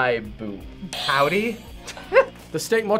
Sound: laughs

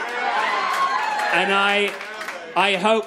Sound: crowd laughing

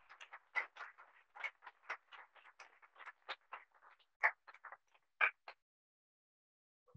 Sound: applause

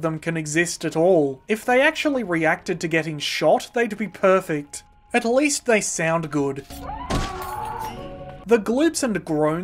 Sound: horrendous screaming

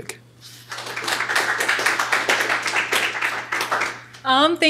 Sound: applause

